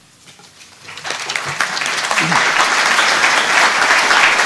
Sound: applause

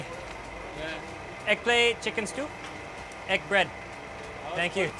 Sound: speaking foreign language

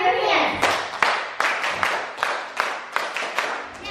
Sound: clapping

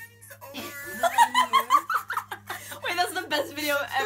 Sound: laughter

